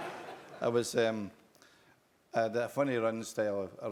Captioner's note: laugh